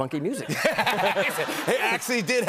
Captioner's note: laughter